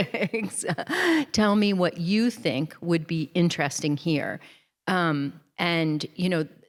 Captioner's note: chuckles